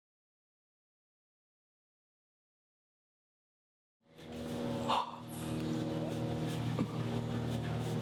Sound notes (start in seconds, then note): 4.8 sharp exhalation